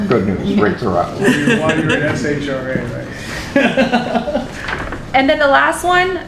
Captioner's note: laughter